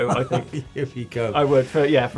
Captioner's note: laughter